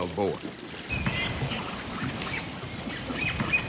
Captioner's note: boar squealing